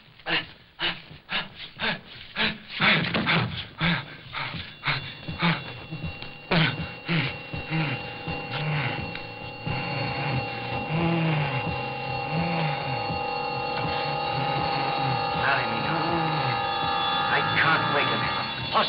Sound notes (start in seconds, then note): 1.2 panting; 6.8 bell ringing